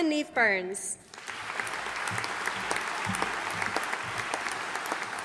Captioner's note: audience applauding